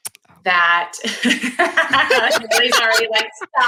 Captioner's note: group laughs